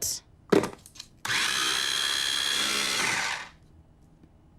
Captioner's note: grinding